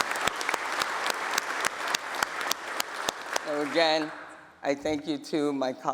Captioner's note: applause